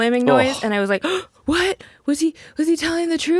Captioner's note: gasps